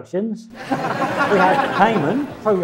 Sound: audience laughing

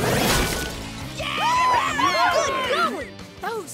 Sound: cheering

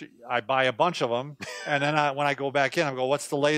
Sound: laughs

